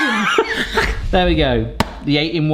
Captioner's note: laughs